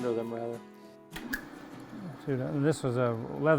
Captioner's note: wheel whirring